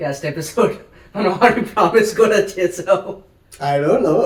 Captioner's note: laughs